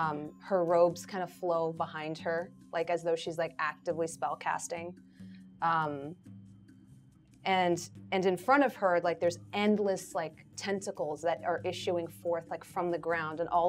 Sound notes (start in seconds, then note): none